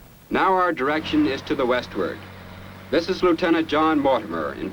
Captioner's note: none